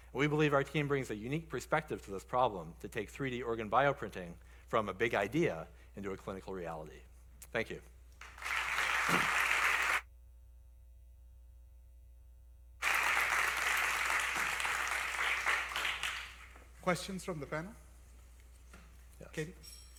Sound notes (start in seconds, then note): 8.2 applause